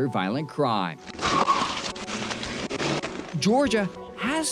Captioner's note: engine roaring